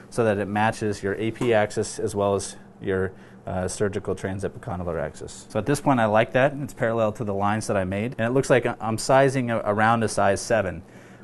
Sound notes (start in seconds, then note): none